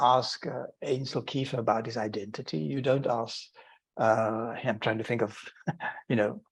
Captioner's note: chuckling